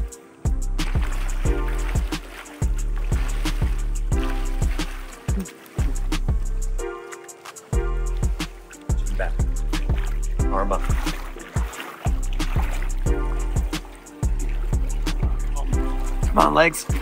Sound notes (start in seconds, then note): 5.4 water splashing